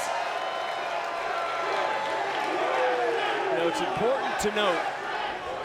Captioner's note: applause